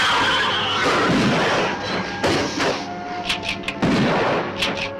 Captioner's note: gun firing